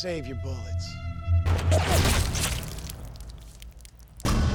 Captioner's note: gunshots